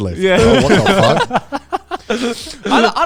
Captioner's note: all laughing